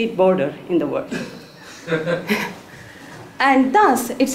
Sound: laugh

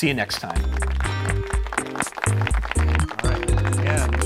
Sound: applause

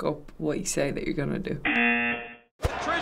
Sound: buzzer

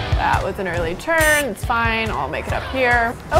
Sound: beep

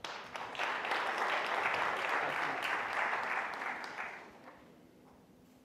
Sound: audience applauding

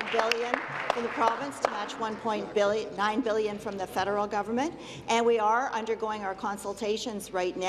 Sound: applause

